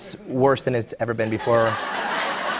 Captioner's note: laughter